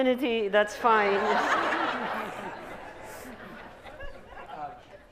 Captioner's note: laughter